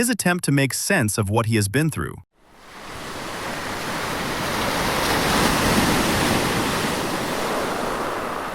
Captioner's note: шум волн